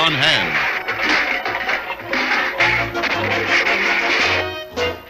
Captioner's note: Cans tumble on Riff Raff